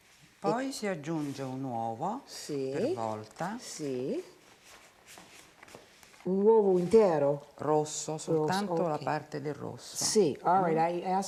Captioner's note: speaking Italian